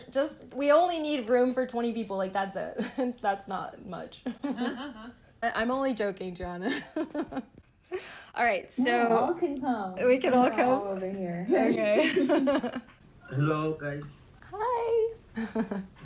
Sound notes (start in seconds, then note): 4.2 laughter; 4.3 laughing; 11.7 laughter; 15.4 laughter